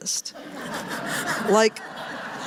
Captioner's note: laughter